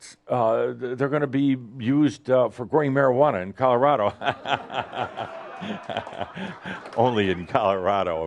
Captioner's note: lots of laughter